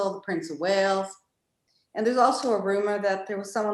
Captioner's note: none